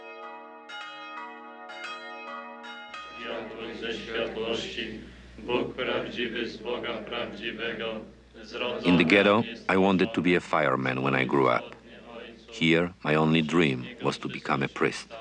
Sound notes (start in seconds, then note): 0.0 bells ringing; 3.4 men praying